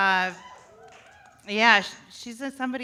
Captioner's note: audience cheers